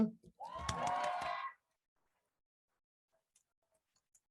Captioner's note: crowd cheers